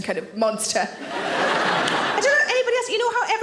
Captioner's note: audience laughing